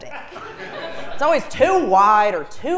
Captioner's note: laugh